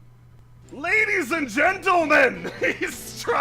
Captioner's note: yelling